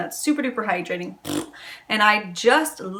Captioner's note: raspberry sound